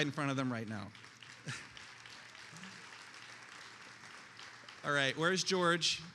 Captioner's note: attendees applauding